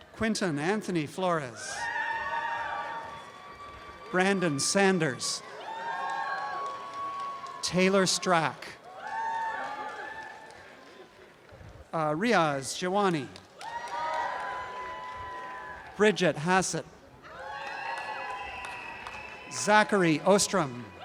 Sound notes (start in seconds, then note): 1.5 audience cheering; 5.5 audience cheering continues; 6.3 applause and cheering; 8.9 applause and cheering; 13.2 applause and cheering